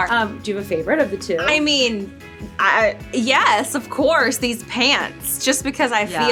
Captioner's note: stutters